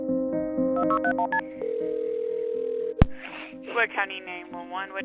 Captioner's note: phone ringing